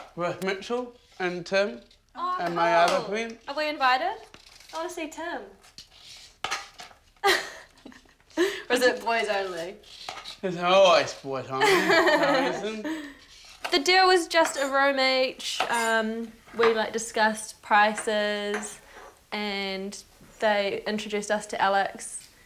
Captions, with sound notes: With Mitchell and Tim and my other friend. Oh! Are we invited? I want to see Tim! (laughing) Or is it boys only? It's always boys only. (laughing) No reason. The deal was just a room each. We discussed prices and they introduced us to Alex,